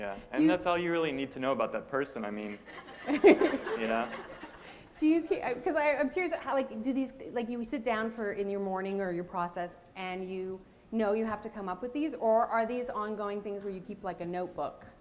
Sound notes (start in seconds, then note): 2.5 laughter